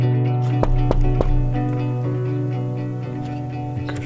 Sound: knocking on the door

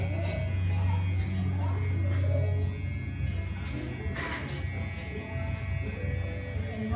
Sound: clippers buzzing

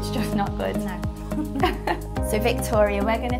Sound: laughing

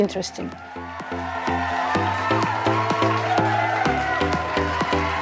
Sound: audience cheering

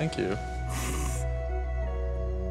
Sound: snickering; romantic music

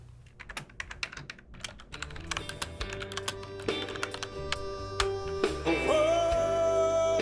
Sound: computer keys tap

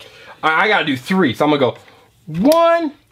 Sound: voiceover

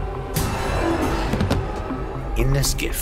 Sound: body thuds

